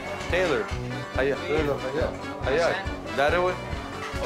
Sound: man speaking in foreign language

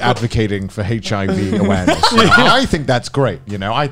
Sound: laughing

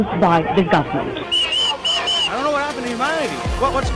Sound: whistle blowing

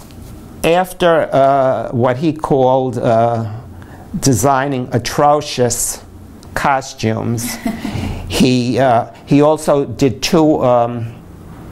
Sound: laughter

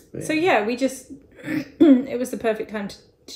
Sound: clears throat

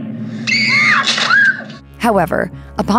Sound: screams

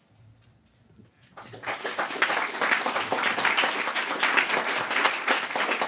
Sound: audience applauding

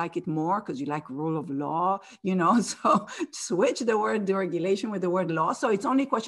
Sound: laugh

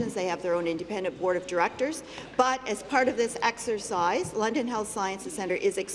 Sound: none

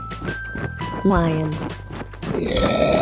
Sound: lion sound

